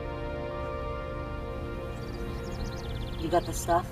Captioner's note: birds chirping